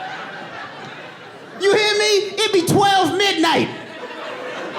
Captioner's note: audience laughing